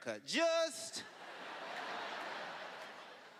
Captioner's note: laughter